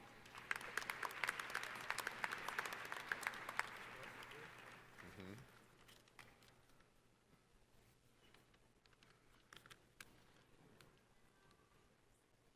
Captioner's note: applause